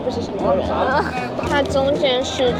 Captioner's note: pig squeal